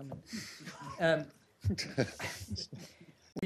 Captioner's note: laughter